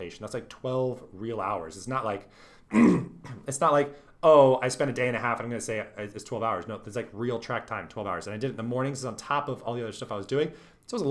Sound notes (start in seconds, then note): 2.7 clears throat